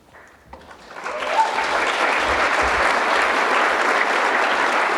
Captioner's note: audience applauding